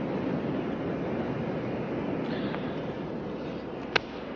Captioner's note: waves rumbling